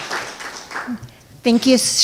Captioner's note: audience clapping